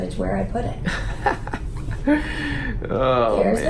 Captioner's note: chuckling